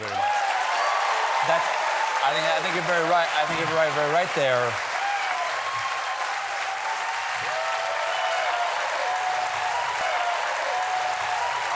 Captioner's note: applause; cheering